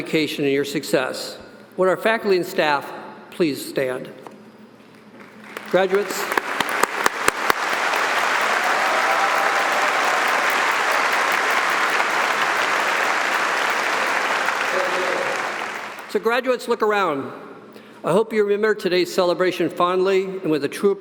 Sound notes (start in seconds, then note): 5.2 audience applauding